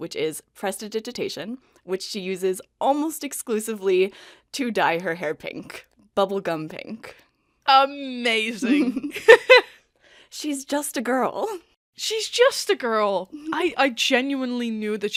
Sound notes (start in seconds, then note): 8.6 laughing; 8.6 laughs